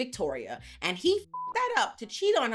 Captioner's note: beep